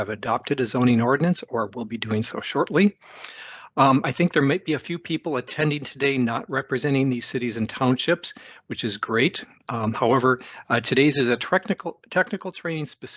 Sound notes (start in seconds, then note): 3.0 inhales